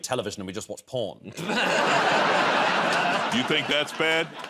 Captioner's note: laughter